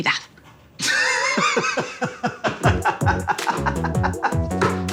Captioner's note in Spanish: Carcajada